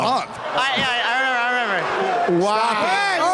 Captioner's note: crowd booing